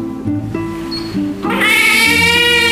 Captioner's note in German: Babyschreien